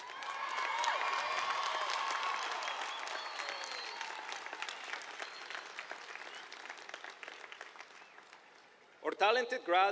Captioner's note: applause